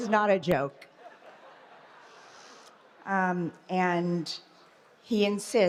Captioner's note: laughter